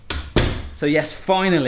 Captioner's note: door closes